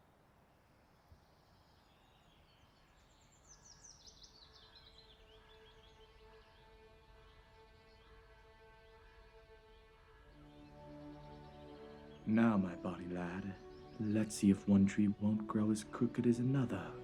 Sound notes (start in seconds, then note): 2.4 birds singing; 5.1 soft music